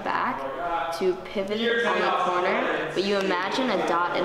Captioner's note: loud men talking